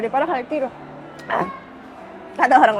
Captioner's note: choke